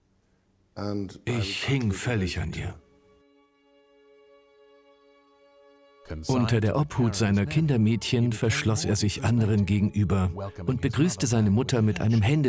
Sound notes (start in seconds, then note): 3.1 solemn music; 5.9 voiceover